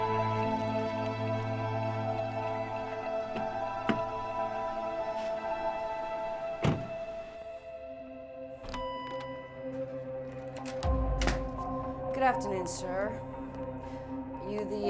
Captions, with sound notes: (door bell dinging) (ominous music) - Good afternoon, sir.